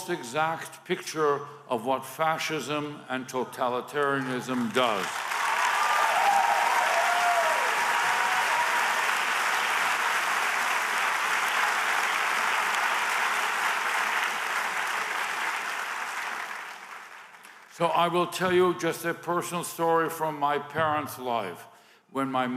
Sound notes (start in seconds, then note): 4.0 applause